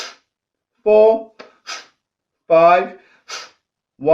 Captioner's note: exhales sharply